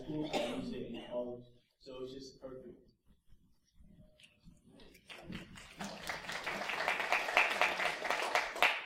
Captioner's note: applause